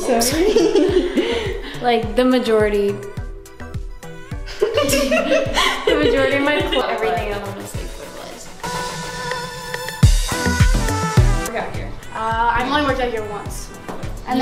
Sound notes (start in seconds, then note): 4.4 laughter; 9.8 upbeat music